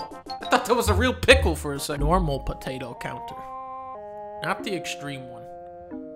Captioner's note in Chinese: none